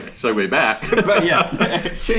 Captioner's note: laughs